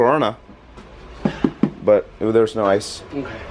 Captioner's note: taps on box